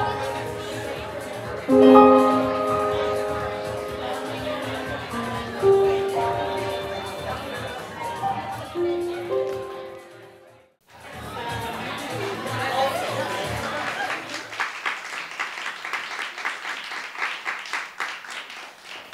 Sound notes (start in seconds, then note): 10.3 background chatter; 11.5 applause